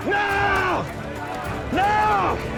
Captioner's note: crowd clamoring